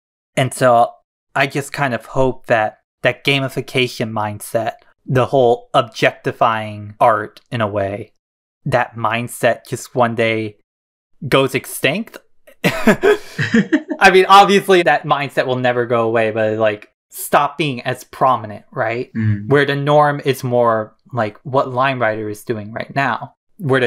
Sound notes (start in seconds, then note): 12.6 both laugh